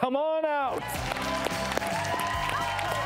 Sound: audience cheers

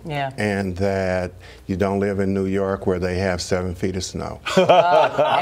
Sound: laughter

